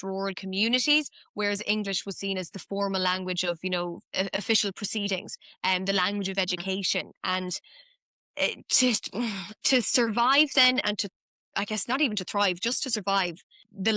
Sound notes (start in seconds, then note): none